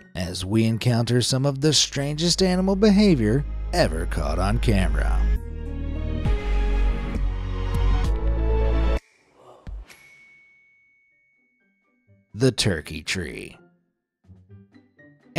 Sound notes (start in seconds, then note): 5.3 gentle music; 9.9 bell ringing